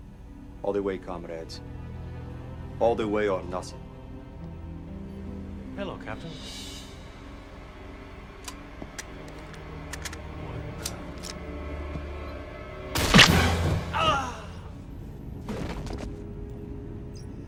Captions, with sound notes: All the way, comrades. All the way or nothing. Hello, Captain. [gunshot] [groan]